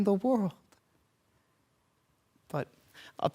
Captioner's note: silence